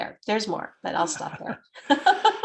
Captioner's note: chuckles; laughs